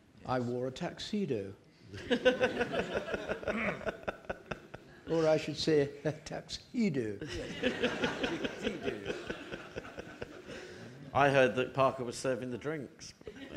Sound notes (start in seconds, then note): 2.0 audience laughing; 7.2 audience laughing